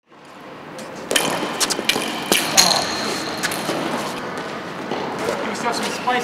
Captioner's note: sounds of people playing tennis, coach's instructions